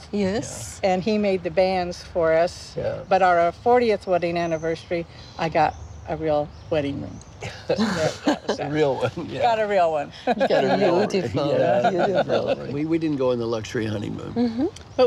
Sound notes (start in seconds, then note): 10.0 laughing